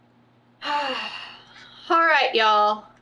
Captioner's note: sighs